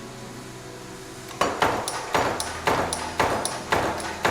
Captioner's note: clacking